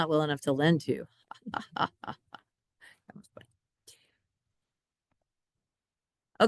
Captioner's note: laughs